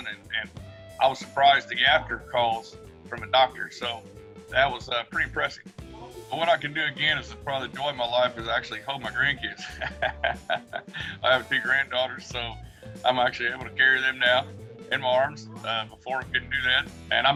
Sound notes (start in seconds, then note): 9.4 laughs